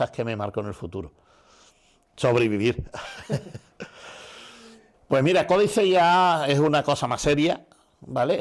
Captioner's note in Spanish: risas